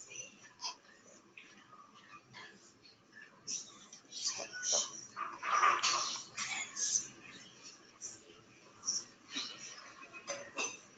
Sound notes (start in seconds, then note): 4.3 murmurs